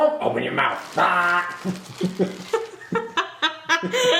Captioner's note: mumbles; high pitched burp; laughs